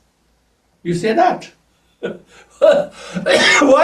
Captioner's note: laughs